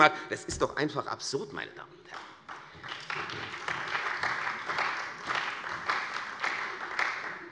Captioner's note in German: Beifall bei der CDU und dem BÜNDNIS 90/DIE GRÜNEN